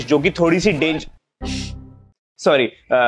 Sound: chuckles

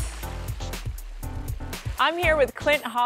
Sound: water sound

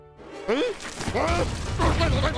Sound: confused grumbles

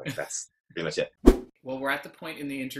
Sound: whoosh

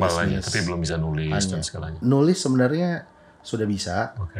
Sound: conversation

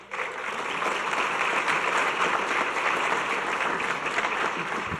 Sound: audience clapping

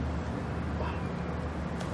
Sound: whispering

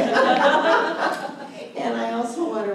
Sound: laughter

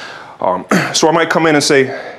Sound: cough

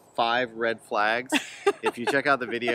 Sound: laughter

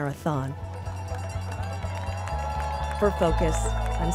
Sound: bells ringing, cheering

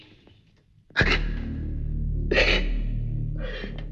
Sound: sobbing

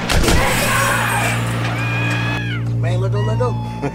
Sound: gun bangs; men yelling

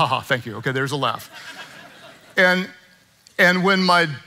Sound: congregants laughing

